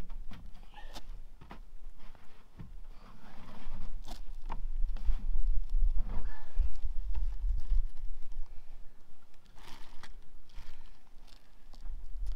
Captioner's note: footsteps